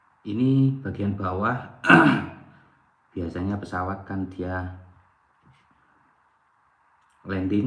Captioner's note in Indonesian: berdehem